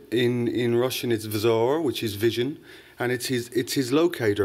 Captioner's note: russian